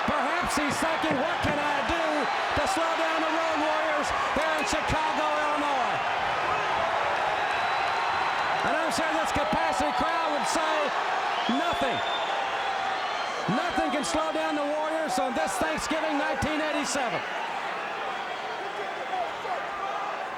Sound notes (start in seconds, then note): 7.7 crowd cheers